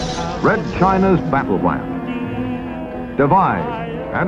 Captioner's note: television